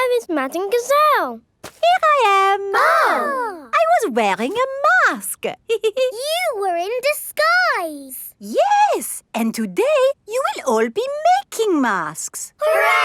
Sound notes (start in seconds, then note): 2.6 exclaiming; 5.7 giggles